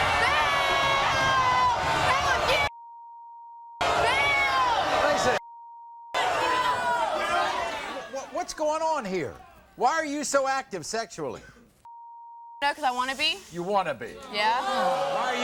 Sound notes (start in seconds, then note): 3.1 beep; 6.1 audience shouts; 11.9 beep; 14.2 audience groans